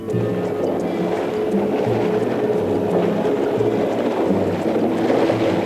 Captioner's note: water sounds